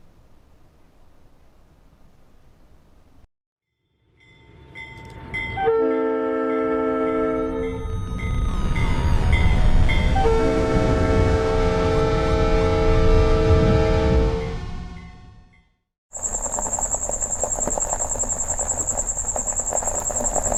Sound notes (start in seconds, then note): 5.5 train horn blaring; 16.1 crickets chirping; 16.1 tires crackling